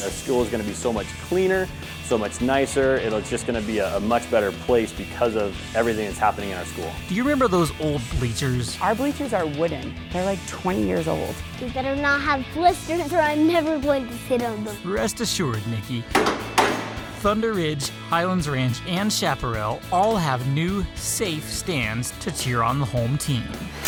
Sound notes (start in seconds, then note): 16.1 hammering out; 23.6 drilling